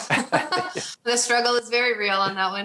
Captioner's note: laughs